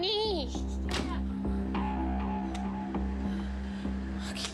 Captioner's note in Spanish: portazo